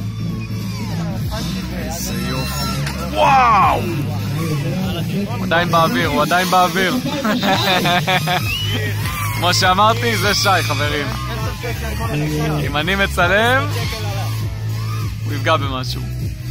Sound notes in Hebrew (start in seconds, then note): 6.2 קול של צחוק